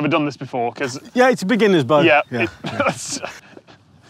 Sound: chuckles

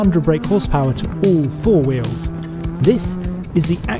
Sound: car engine roars

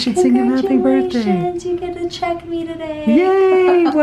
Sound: laughs

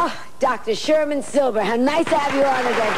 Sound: applauds

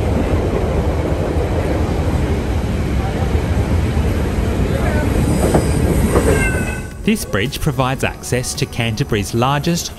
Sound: wind blowing

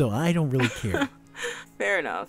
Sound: chuckles

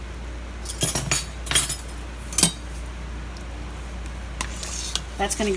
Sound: spoons clinking

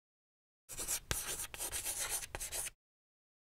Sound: writing on chalkboard

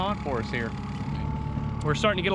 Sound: boat engine idling

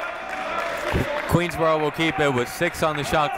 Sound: clapping

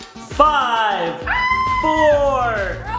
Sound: screaming

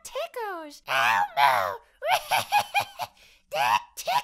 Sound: laughs

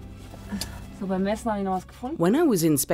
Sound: speaking in foreign language

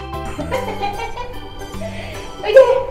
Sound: laughs

